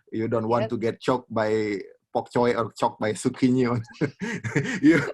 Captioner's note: laughs